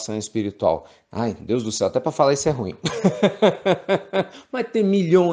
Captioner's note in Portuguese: risos